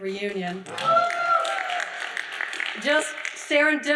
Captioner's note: audience whooping and applauding